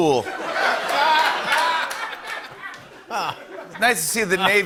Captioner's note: laughter